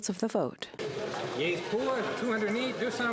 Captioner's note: speaking French